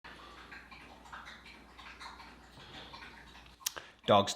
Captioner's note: dog drinking water sound